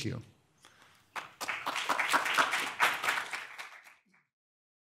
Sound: audience applauding

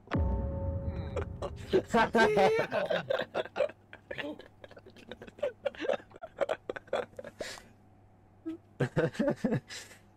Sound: laughing even harder

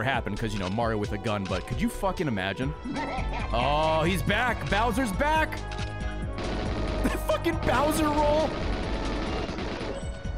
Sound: laughs

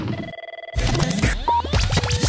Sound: phone ringing

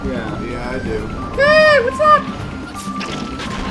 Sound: Mickey Mouse voice

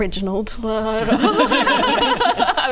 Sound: thoughtful? laughter

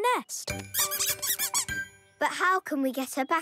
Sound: squeaking

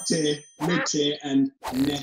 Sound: dinging; swooshing; fwooshing; swooshing

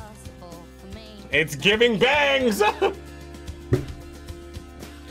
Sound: laughs

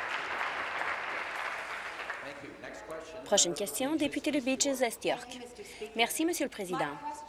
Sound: applause

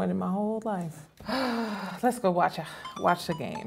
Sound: sighs

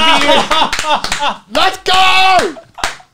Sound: everyone laughs

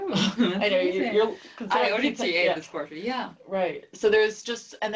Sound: laugh

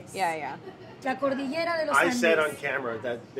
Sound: speaking foreign language

